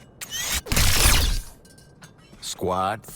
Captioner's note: laser blasting